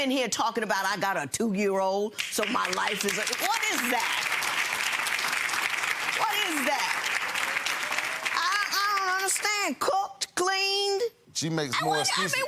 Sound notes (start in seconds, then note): 3.5 audience applauds